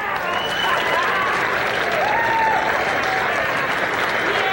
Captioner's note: crowd applauds